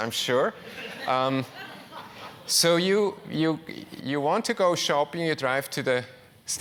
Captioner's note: laugh